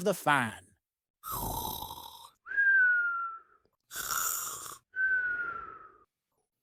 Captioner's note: snoring